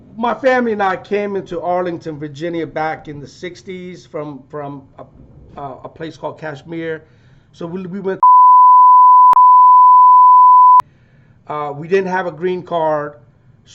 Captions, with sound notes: My family and I came into Arlington, Virginia back in the '60s from a place called Kashmir. So we (beep). We didn't have a green card